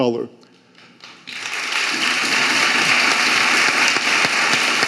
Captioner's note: audience applauding